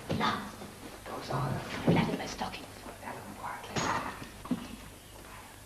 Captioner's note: whispering and fumbling